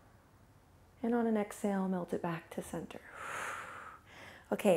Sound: exhales

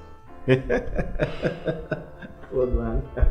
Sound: laughs

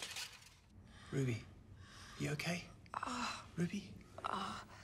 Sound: groans

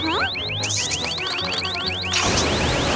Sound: alarm ringing

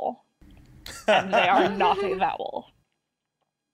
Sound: laughs

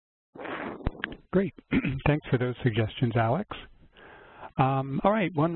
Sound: voiceover

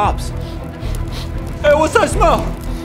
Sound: sniff

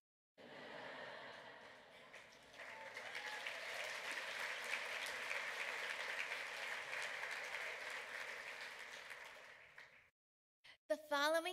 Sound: laughter, clapping

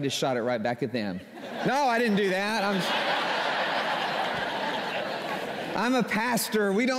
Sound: laughter

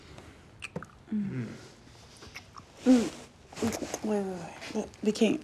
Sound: Jada and Darnell moaning

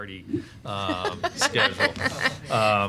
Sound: laughing

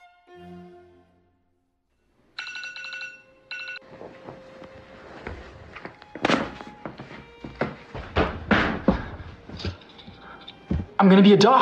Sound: alarm clock

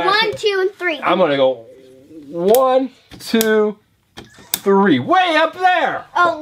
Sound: voiceover

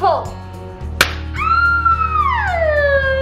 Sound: firework pops; shrieks

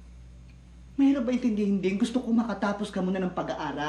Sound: none

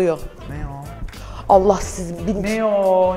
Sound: gasps

